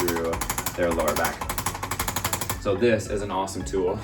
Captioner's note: tool rattling